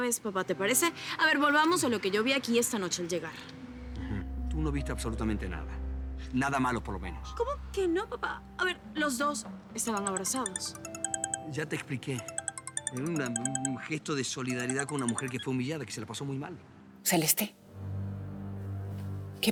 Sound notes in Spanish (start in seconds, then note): 9.9 Suena el celular